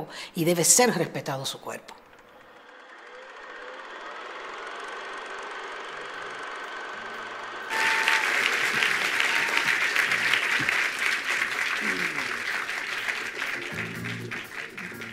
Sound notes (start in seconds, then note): 7.6 attendees applauding